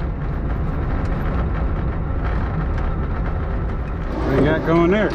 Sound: engine humming

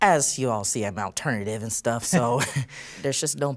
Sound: chuckling

